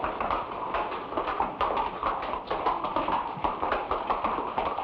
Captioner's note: horse hooves patter